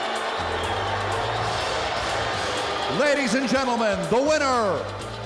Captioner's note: bell ringing